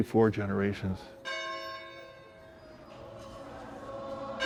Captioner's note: bell tolls